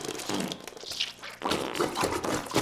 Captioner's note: squishing; sloshing